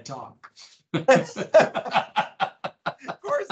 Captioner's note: both laughing